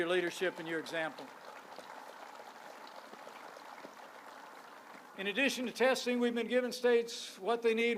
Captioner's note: applause